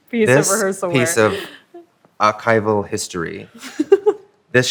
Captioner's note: laughs